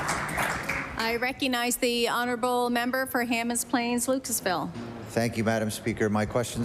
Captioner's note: applause